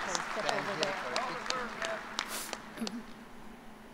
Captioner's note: applause